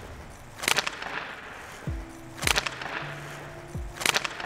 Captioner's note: pucks clacking